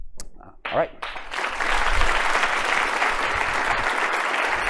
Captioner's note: applause